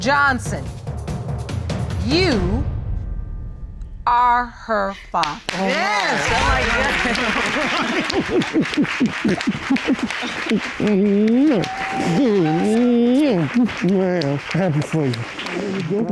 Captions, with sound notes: Mr. Johnson, you... Are her father. (ALL CHEERING) (LAUGHING) Man, I'm happy for you.